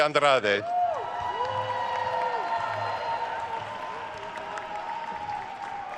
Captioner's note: attendees cheering and applauding